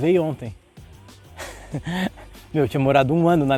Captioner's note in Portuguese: risos